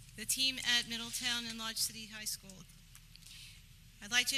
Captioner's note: none